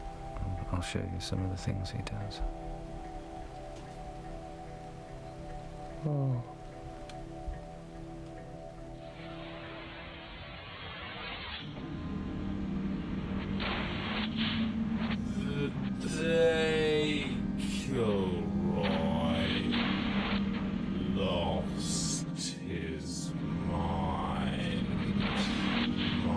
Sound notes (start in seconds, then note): 15.2 slow, distorted